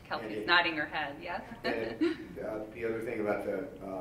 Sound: laughs

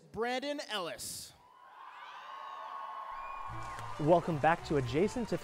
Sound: cheering

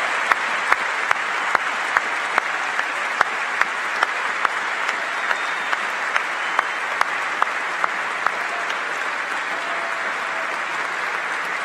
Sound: applause

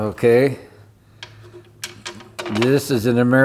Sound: rock clatters

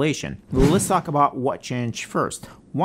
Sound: Instagram username whooshes

